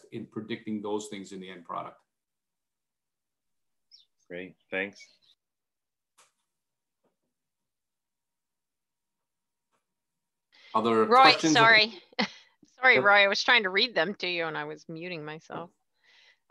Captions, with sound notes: in predicting those things in the end product. - Great, thanks. - Are there. - Roy, sorry. (laughing) Sorry, Roy, was trying to read them to you, and I was muting myself.